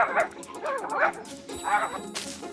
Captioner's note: barking viciously